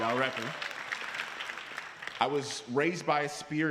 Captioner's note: applause